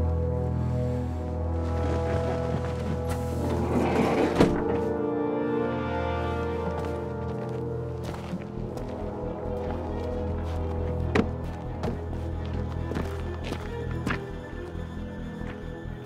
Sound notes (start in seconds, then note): 0.0 suspenseful music; 2.5 engine revs; 9.2 suspenseful music